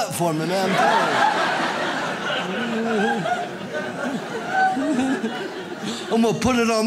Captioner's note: audience laughs